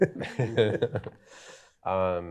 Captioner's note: chuckling